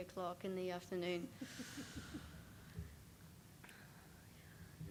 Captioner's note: chuckles